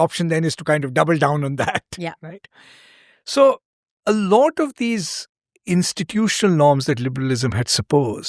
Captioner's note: laughter